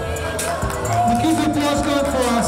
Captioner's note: crowd cheering